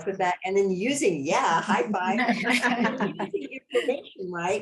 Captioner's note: laughs